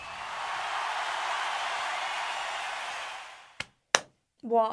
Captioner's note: crowd cheering